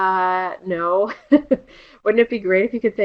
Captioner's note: laughter